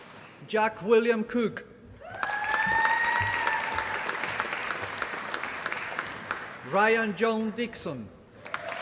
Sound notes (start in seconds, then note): 0.0 applause; 2.0 applause